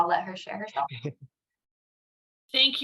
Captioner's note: laughs